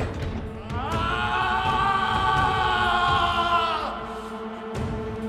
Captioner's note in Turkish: Müzik - Vurmalılar; Bağırma sesi